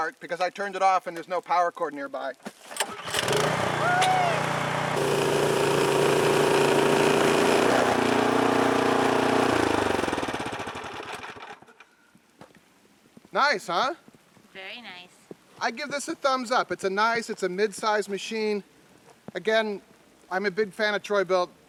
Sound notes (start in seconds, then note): 2.4 engine starting; 5.3 engine running